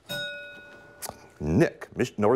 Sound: bell rings

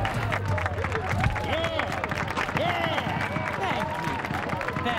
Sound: cheering and applause

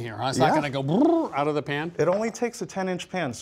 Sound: bubbling

